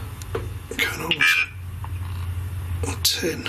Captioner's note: device vocalising